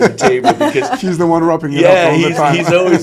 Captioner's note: all laugh